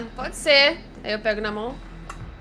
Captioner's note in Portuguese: beijo